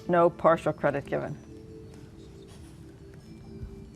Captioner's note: whispering